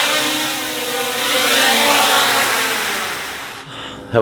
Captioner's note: drone propellers roar; drone landing